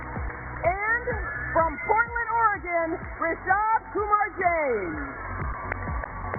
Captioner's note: cheers and applause